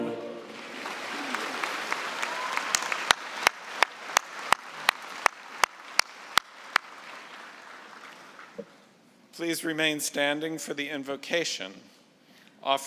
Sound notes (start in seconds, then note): 0.9 applause